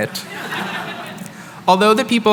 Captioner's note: chuckling